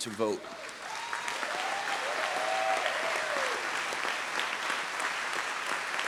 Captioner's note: audience cheers and applauds